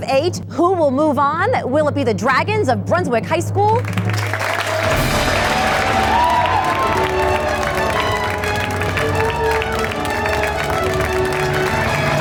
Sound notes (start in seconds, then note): 4.9 applause; 5.9 cheering; 5.9 triumphant music